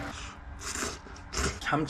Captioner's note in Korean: 후룩 후루룩